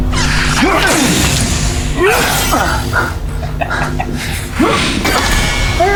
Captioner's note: energy whirring; fighters grunting